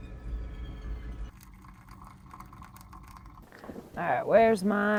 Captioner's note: water bubbling; water trickling